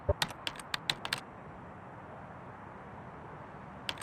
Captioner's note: keyboard clicks